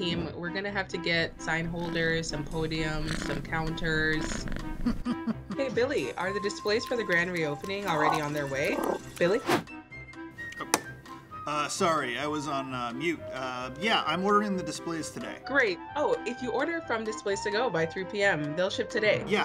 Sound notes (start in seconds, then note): 4.2 cat purring; 4.8 chuckles; 7.8 cat chortles; 10.2 clicks